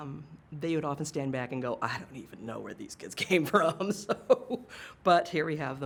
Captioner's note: laughs